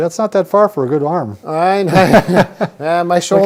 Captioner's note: both chuckling